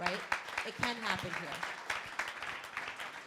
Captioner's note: crowd applauding